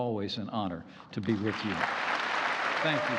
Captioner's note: applause